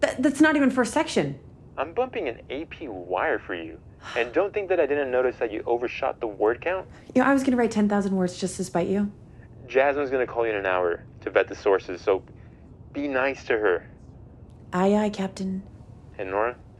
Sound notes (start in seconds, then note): none